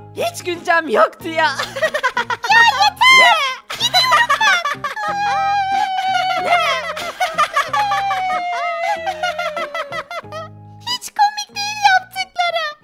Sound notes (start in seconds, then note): 1.6 laughter; 5.0 crying voice